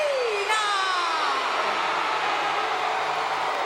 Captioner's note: crowd cheering